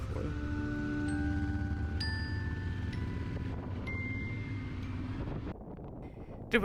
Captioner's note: motorcycle engine revving; upbeat music; wind whooshing